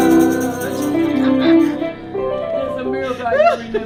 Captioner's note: laughs